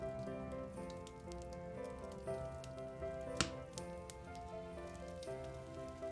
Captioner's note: fire crackling; gentle holiday music